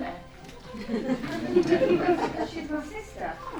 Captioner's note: laughter